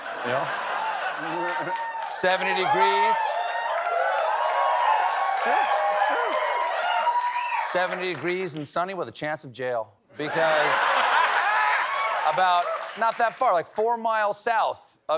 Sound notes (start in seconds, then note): 4.1 cheers and applause